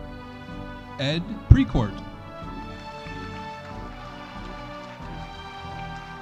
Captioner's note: audience applauding